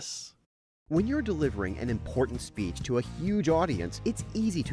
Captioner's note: voiceover